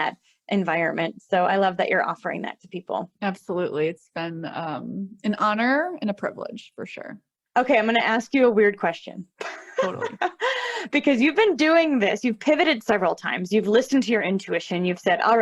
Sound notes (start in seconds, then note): 9.4 laughter